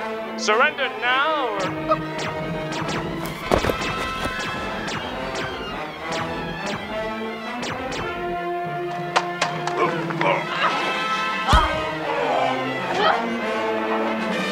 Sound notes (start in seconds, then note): 1.8 scared shriek; 11.5 both grunting and fighting